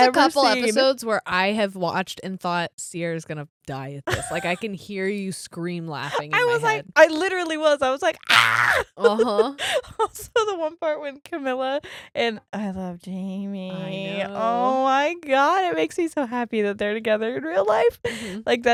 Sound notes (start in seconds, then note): 8.2 screams